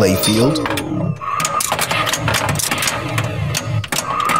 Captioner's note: synthesized wind